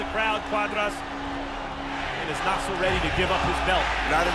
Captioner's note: crowd chanting